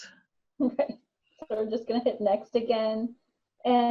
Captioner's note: laughs